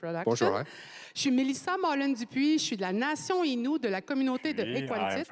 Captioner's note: speaking French